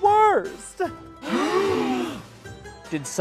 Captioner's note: campers gasp